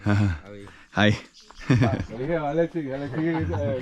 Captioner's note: chuckles; speaking in foreign language